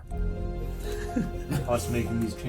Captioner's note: laughing